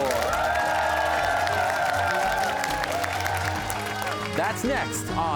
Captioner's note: cheers and applause